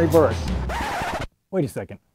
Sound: disc scratching

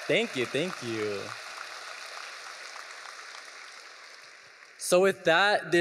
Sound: audience applauding

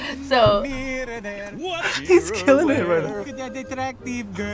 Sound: laughs

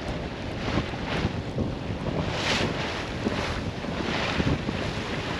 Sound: sounds of waves

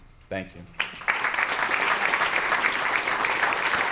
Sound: applause

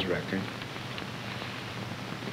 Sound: paper rustle

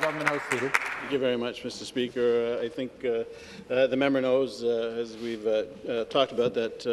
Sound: applause

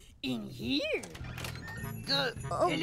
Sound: squeak

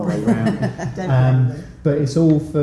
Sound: light laughter

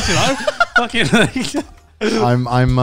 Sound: laughing

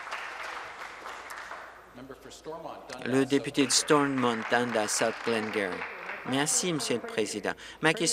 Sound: applause

